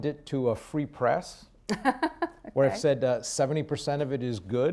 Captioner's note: laughs